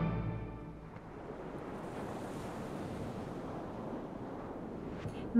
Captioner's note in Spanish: Sonidos del mar